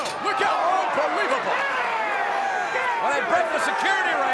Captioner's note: crowd yelling